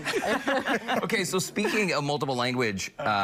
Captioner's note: laughter